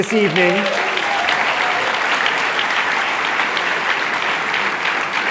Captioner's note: applause